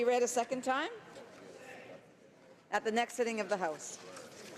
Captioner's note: speaking French